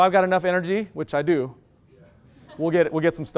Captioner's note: loud laughter